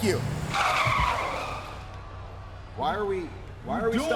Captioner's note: tires screeching